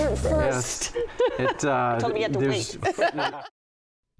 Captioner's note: laughs